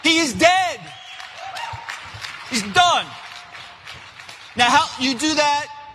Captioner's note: applause